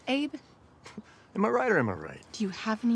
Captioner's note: scoffs